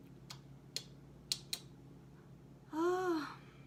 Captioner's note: clicks tongue